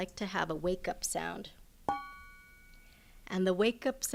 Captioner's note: bell toned